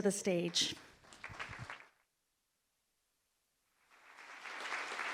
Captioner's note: audience applauding